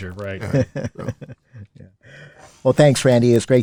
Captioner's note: laughing